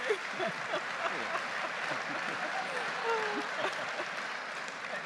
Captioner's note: audience applauding